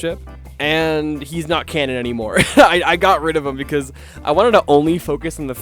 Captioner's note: laughing